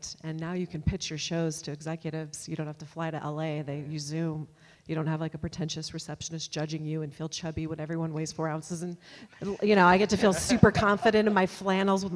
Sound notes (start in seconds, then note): 9.4 audience laughs